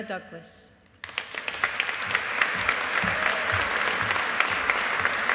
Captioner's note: audience applauding